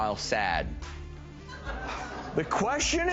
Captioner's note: scattered laughing